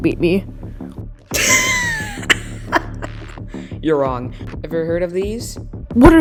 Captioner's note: laughs